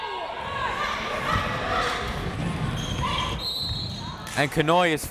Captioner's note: crowd members shouting; whistle tweeting